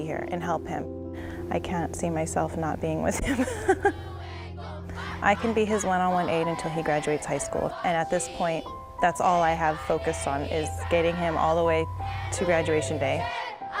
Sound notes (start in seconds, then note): 3.1 laughs